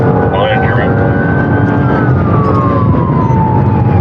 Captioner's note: radio chatttterer